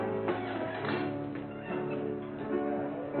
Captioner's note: people chattering